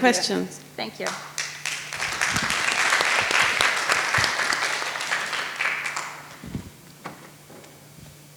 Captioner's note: audience applauds